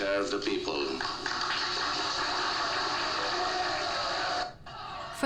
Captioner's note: audience clapping